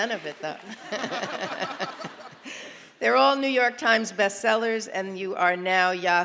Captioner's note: applause; laughter